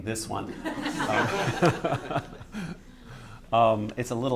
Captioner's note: laughter